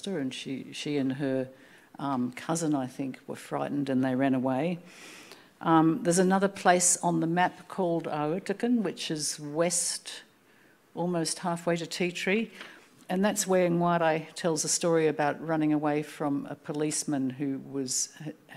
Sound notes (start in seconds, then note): 7.9 speaking Anmatyer